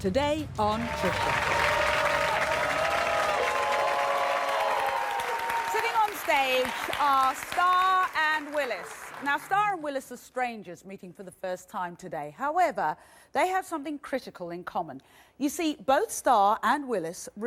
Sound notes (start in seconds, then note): 1.3 crowd cheers